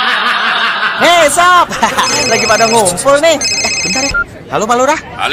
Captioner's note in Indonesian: tertawa